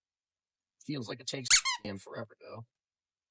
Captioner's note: squeak